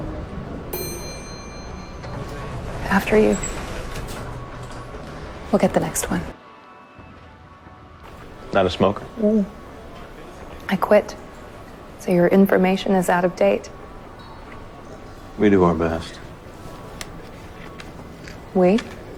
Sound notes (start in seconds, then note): 0.4 elevator door dings; 8.8 voiceover